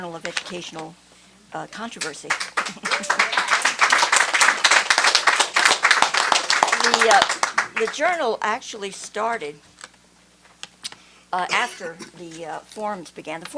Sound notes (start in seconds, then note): 1.9 applause